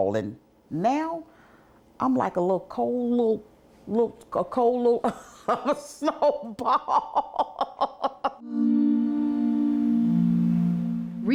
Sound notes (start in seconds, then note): 5.1 laughs; 8.4 soft music